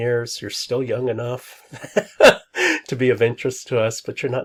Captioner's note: laughs